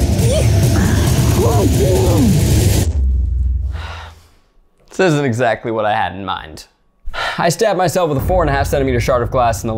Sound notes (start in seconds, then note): 0.7 muffled screams; 3.1 dramatic music ends; 3.7 sighs